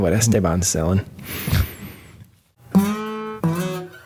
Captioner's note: breaths deeply; chuckles; lighthearted guitar music